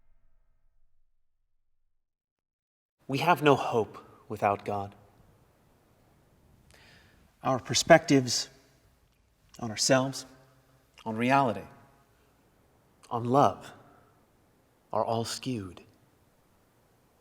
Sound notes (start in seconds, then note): none